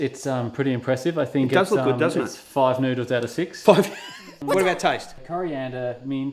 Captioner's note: laugh